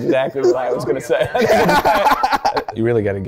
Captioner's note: all laughing